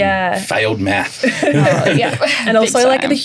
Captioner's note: all laughing